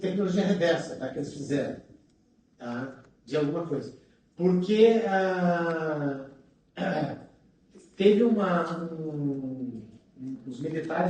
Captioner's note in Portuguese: limpando a garganta